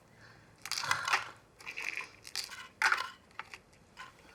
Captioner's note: pills jiggling